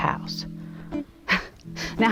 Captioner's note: laugh